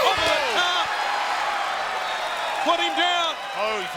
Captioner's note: applause